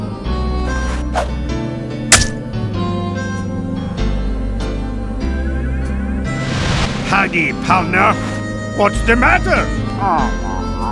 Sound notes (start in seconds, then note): none